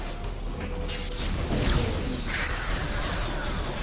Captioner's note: explosion